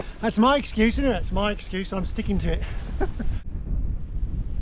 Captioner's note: laughs